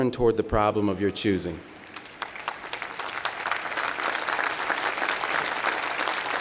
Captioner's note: applause